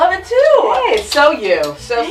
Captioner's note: claps hands